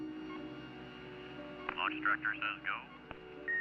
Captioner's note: man Over Radio